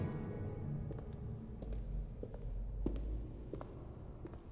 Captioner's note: footsteps tapping